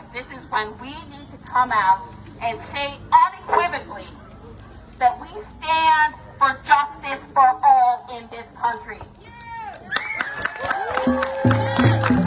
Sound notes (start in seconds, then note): 9.8 audience applauding; 9.9 audience cheering